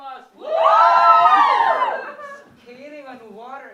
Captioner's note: Cheers in Winnipeg